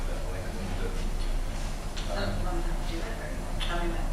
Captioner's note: talking quietly